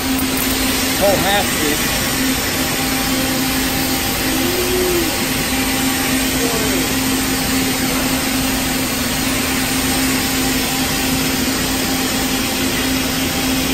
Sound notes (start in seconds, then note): 0.2 welding torch sizzling